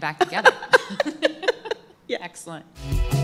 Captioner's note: laughter